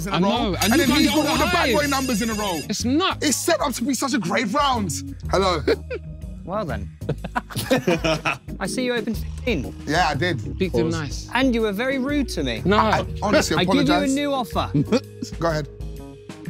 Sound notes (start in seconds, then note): 0.6 phone ringing; 7.0 everyone laughing